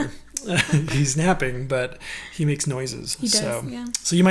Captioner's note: laughing; laughs